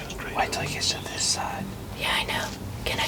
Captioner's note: whispering